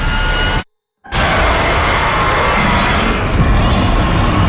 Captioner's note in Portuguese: rugido